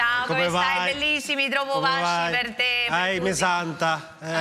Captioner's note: speak italian